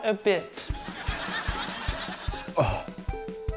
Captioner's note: laughter